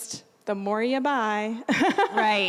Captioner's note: laughing